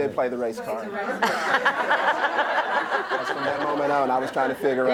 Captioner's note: laughter